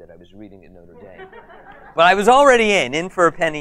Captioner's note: audience laughs